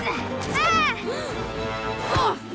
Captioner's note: gasps